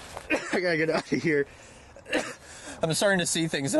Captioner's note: coughing